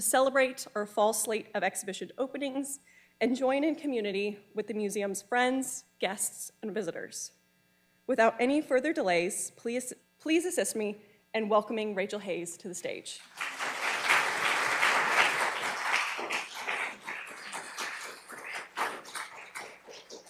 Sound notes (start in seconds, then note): 13.2 audience applauding